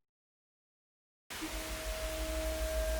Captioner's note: rain